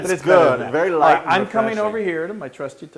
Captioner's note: laugh